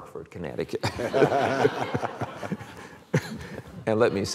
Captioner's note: laughter